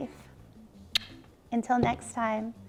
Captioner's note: kisses